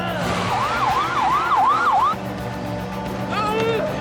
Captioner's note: siren wails